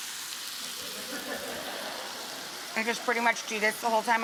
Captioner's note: audience laughing